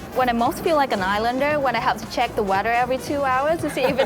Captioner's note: laughing